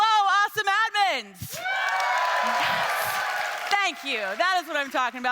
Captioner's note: attendees cheering